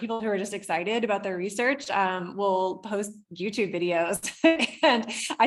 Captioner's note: laughs